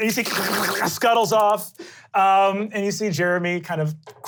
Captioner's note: glottal clicking